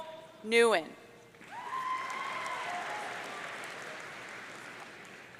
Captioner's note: audience cheering